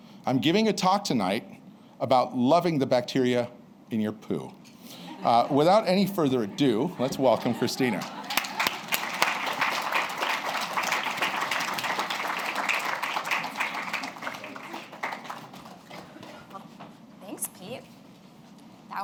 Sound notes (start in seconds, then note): 7.8 applause